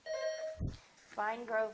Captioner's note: buzzer dings